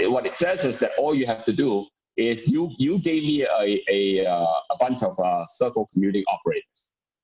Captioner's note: murmur